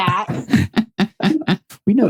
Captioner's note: laughing